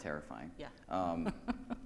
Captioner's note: laughs